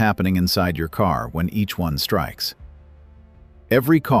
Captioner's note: emphasis